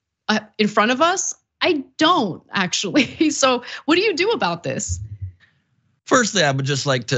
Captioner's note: laugh